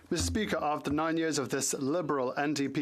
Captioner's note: speaking French